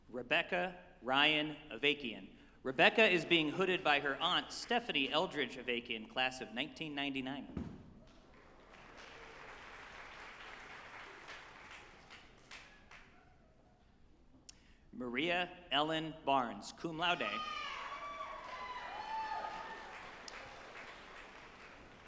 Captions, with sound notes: Rebecca Ryan Avakian. Rebecca is being hooded by her aunt, Stephanie Eldridge Avakian Class of 1999. (group applauding) Marie Ellen Barnes, cum laude, (group applauding and cheering)